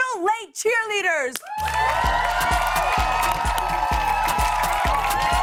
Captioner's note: cheers and applause